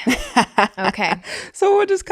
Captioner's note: laughing